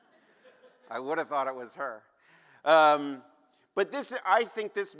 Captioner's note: laughter